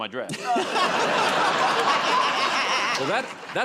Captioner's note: laughter